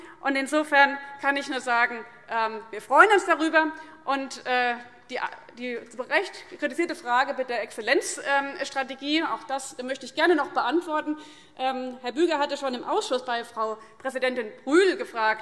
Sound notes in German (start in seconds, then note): none